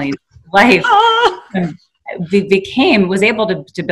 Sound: laughing

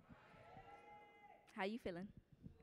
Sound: audience cheering

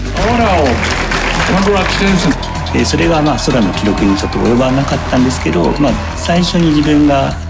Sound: crowd applauding; speaking Japanese

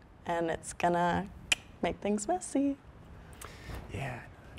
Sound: tongue clicking

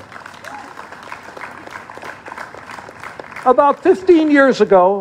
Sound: applause

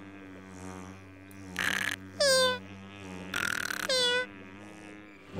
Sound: snoring; buzzing

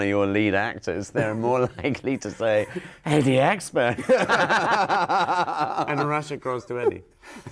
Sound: both laughing

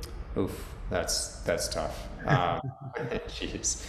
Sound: chuckles

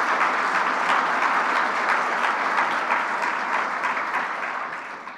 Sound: clapping

